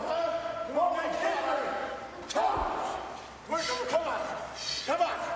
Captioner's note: men chattering